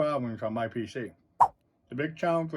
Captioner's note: swipe sound